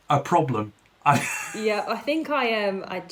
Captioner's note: laughs